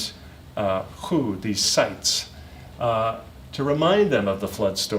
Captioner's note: non-english speech